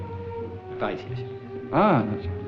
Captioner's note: French spoken audio